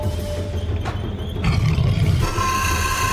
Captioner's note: beast growls; beast shrieks